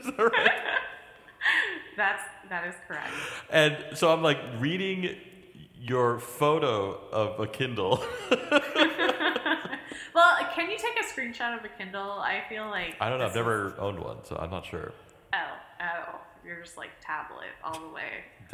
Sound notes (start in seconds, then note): 0.0 laughs; 7.9 laughter